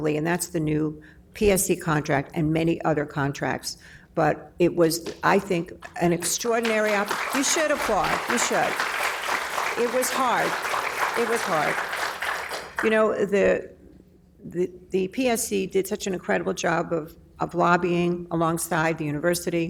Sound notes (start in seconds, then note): 8.8 applause